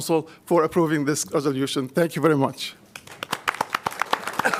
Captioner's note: applause